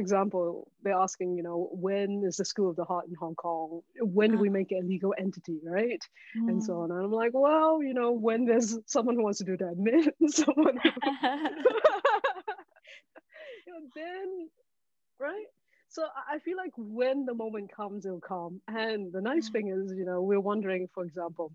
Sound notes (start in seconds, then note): 10.6 all laughing